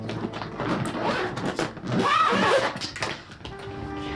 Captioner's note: suitcase rattles; zipper zips